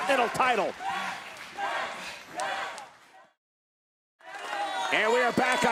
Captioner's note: applause